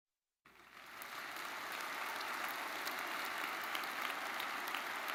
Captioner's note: audience cheering